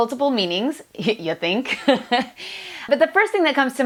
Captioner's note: laughs